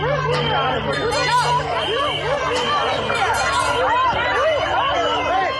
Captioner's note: whistles blaring; metal clanking; people yelling